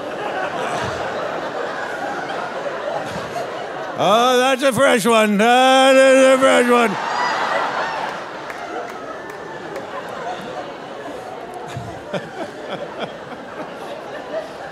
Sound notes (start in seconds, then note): 7.2 audience laughing; 11.8 laughing